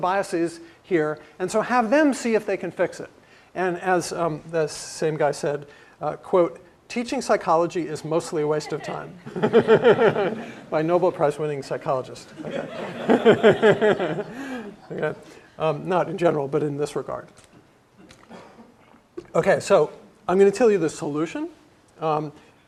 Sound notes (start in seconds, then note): 9.8 laugh